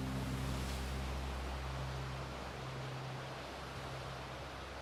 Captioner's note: none